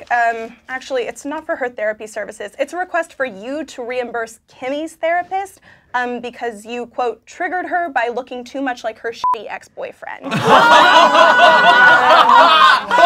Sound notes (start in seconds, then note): 9.2 beeping; 10.3 laughing